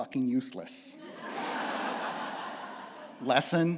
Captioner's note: laughter